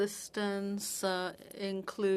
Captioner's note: speaking French